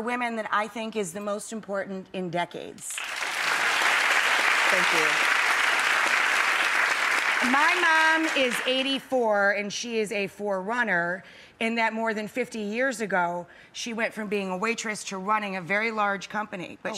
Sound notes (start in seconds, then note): 2.9 clapping